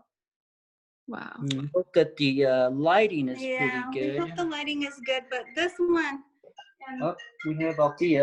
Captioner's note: cell phone ringing